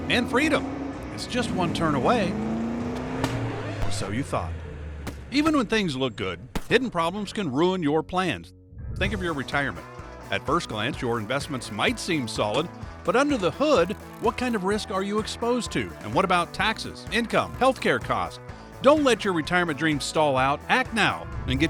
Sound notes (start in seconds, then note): 3.2 car pops; 3.3 record scratching